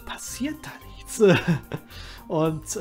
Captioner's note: chuckles